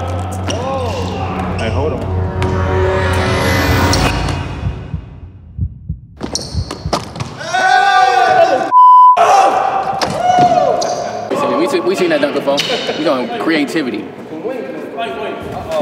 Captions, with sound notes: (cheering) - We seen that dunk before, we got creativity.